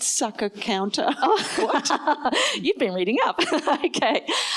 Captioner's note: laughs